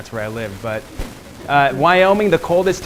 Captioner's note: laughing